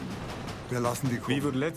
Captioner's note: speaking in foreign language